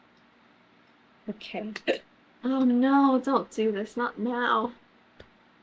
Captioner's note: hiccups